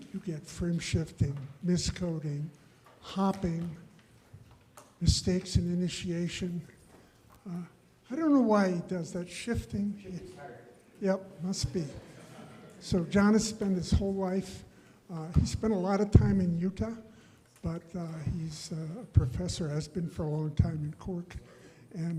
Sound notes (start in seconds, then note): 10.0 faintly speaking; 11.6 audience laughs